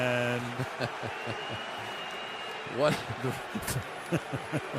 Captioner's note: laughs